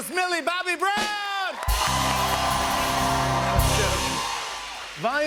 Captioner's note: cheers and applause